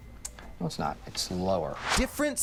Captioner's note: air whooshes